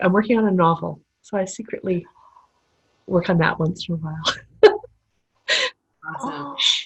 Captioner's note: laughter